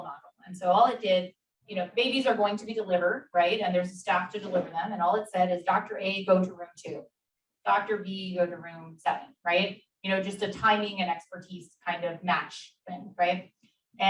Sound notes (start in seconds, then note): none